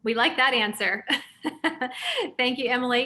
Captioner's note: laughs